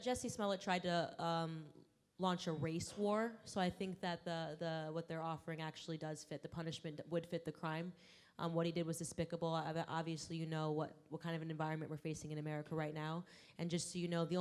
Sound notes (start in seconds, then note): none